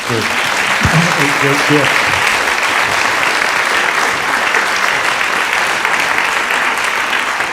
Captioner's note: applause